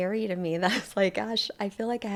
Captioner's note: laughs